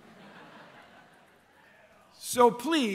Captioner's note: laughter